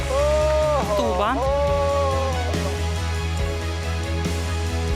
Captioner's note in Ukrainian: оплески